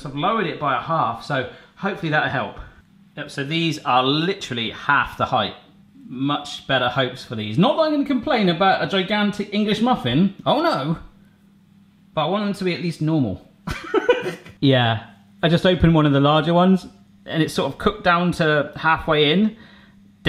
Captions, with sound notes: I've lowered it by a half so hopefully that'll help. So these are literally half the height. Much better hopes for these. Not that I'm going to complain about a gigantic English muffin, oh no! But I want them to be at least normal. (laughing) Yeah, I just opened one of the larger ones and it sort of cooked down to halfway in.